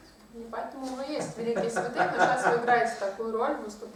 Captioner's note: hahaha